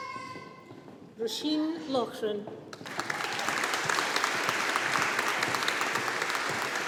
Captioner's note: audience applauding